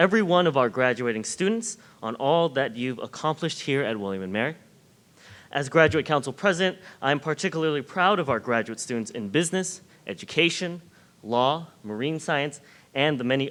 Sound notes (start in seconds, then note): none